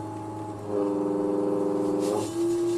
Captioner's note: vibrating sound